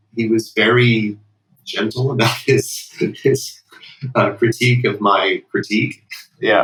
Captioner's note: laughter